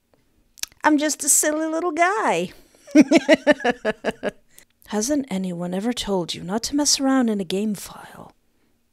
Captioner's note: laughter